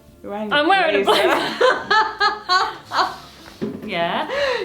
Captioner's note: laughing